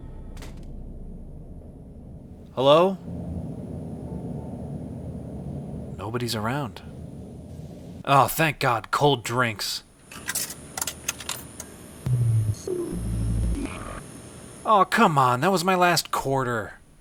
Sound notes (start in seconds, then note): 0.3 omnicutter hits ground; 3.2 air conditioning humming; 10.2 coin clatters; 12.0 vending machine beeps and boops